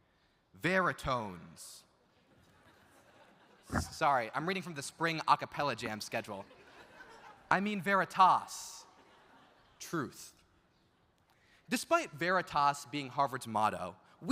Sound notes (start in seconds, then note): 2.6 audience laughs; 6.5 audience laughs